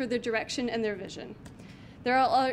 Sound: clicks mouse button

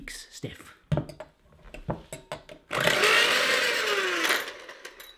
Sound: mixer whirring

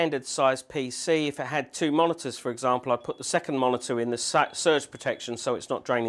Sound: beep, beep, beep,beep

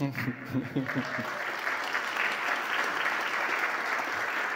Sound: audience applauding

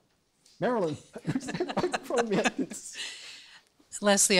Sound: laughs

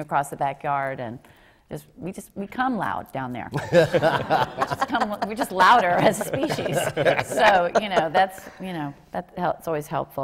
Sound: laughter

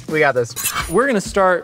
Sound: knife slices

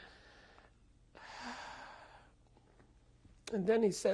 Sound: pauses for 3 seconds; sighs

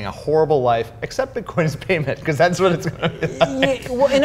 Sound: laughing

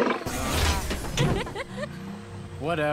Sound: laughs

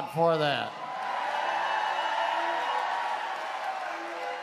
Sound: crowd cheering

